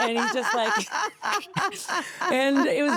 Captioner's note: Stephanie laughing